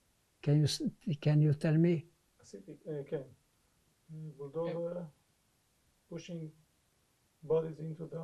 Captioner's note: hebrew